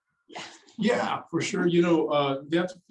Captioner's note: laughs